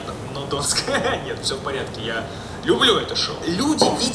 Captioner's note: laugh